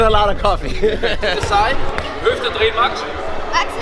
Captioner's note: chuckles